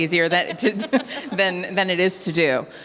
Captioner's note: both laughing